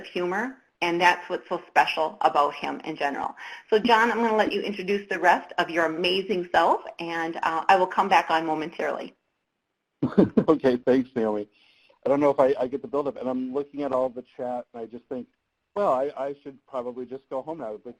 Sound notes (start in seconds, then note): 10.0 laughs